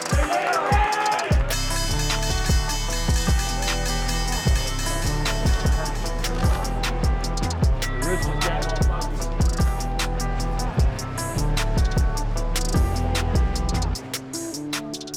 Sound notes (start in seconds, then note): 1.4 bell dings